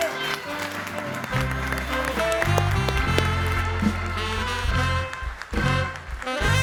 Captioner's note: audience applauding; upbeat music